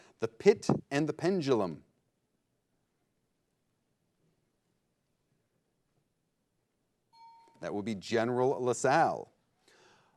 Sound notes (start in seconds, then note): 7.1 bell chimes